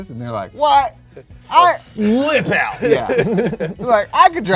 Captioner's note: both chuckles